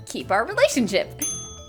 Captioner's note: ding!